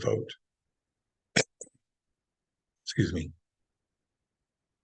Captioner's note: coughs